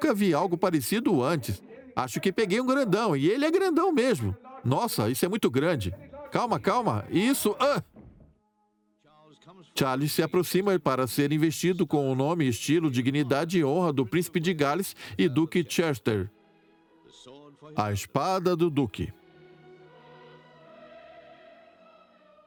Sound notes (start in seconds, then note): 7.0 yells; 8.6 voiceover; 19.2 choir singing